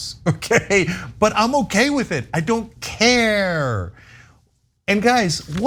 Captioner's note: laugh